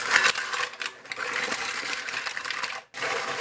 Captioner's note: clatter